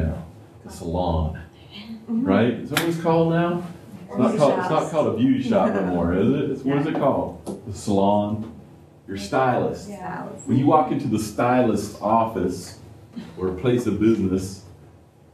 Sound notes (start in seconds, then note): 5.6 laughter